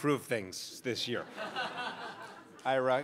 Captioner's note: crowd laughs